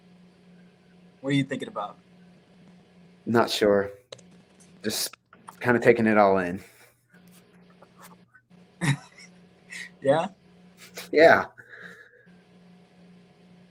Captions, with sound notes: What are you thinking about? - Not sure. Just kind of taking it all in. - (laughs) Yeah? - Yeah.